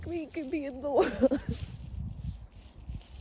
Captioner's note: sobs lightly